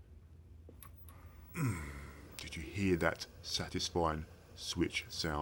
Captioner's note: satisfying grunt